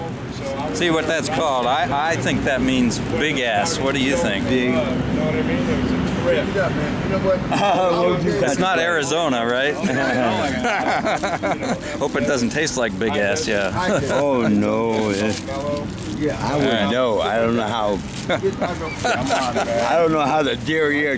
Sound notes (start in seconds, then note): 5.5 laughing; 9.7 both laughing; 18.1 both laughing